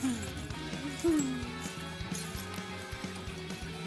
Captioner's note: broken glass crunches